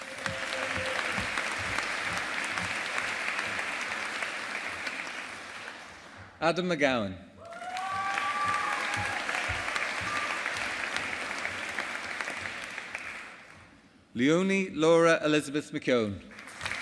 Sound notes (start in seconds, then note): 0.0 audience applauding; 7.4 audience applauding